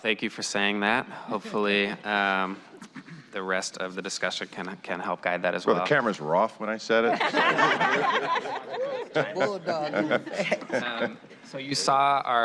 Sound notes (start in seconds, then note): 7.0 laughter